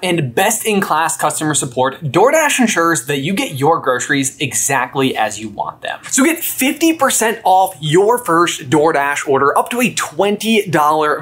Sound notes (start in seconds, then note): none